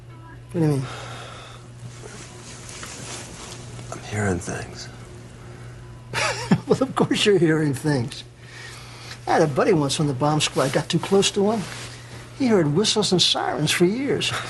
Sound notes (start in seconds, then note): 6.1 Смее се